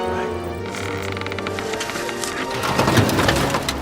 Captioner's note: wood cracking